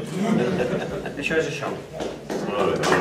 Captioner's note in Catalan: riures